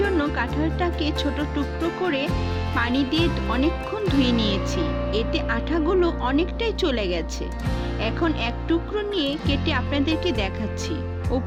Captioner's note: poof!